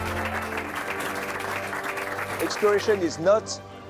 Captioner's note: people clapping